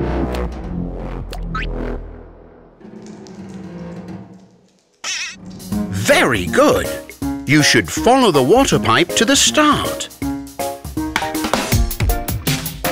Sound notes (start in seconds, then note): 2.8 pipes rumbling